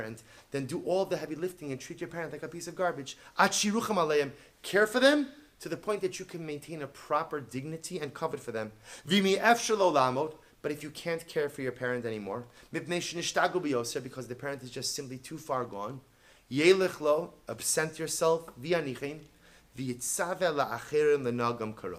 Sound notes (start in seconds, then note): 3.2 Hebrew; 9.2 Hebrew; 20.4 Hebrew